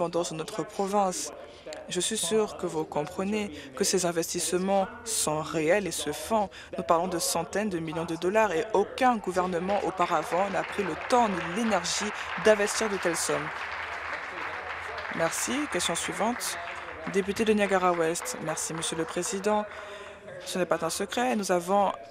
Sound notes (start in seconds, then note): 15.6 applause